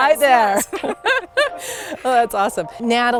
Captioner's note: both laughing